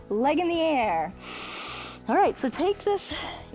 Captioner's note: inhales